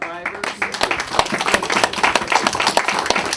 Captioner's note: applause